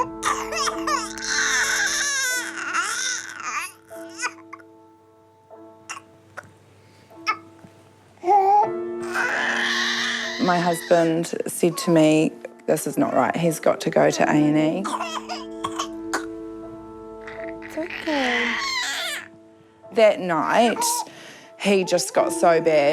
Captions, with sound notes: (COUGHS, CRIES) (CHOKES) (COUGHS, CRIES) (GASPS, CRIES) My husband said to me, 'This is not right. He's got to go to A & E.' (COUGHS) (CRIES) It's OK. That night, he just got so bad.